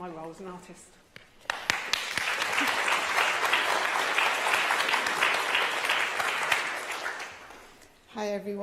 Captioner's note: applause